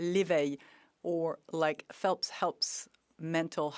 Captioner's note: speaking French